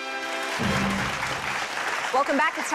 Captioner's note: applause